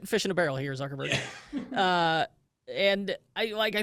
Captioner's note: laughs